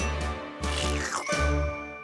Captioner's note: slurping